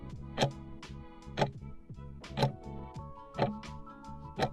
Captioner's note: timer ticking